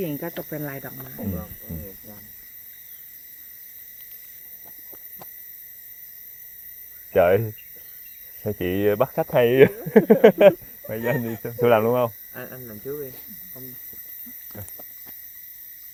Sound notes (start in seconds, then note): 9.2 speaking in Thai